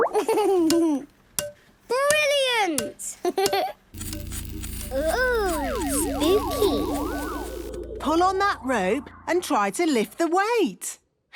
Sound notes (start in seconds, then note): 3.9 pulsing